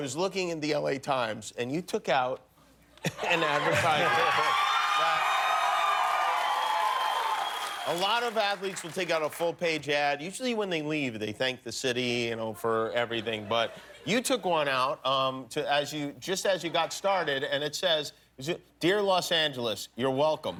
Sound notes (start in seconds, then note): 6.6 cheers and applause